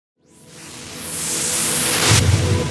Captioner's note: wooshing